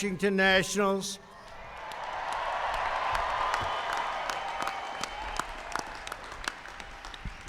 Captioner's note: applause